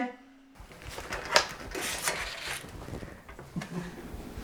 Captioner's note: paper rustling